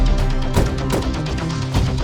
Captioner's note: car doors closing